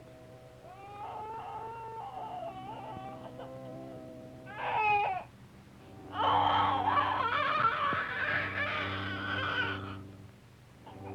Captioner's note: crying